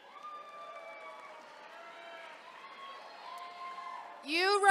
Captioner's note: attendees cheering